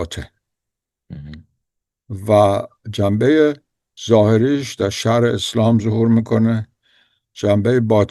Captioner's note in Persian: گلویش را صاف می‌کند